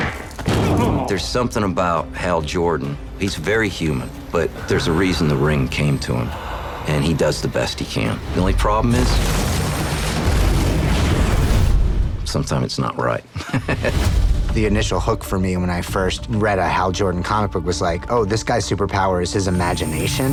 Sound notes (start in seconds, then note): 10.0 explosion; 13.3 chuckles